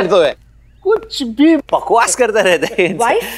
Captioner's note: Chuckles